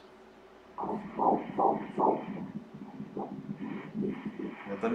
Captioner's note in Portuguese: batimentos cardíacos